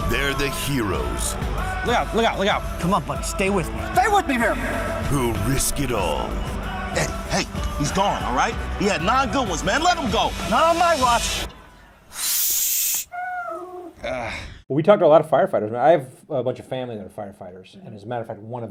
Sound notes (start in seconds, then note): 12.6 whooshing; 13.0 meowing